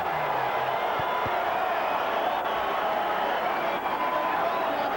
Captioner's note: applause and cheers